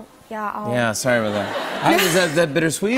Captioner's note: laughter